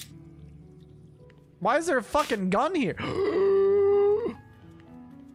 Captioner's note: big Gasp